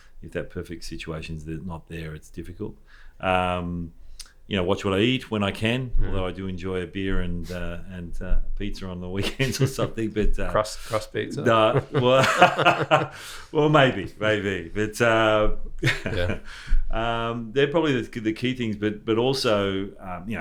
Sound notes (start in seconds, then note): 11.1 laughs; 15.8 laughs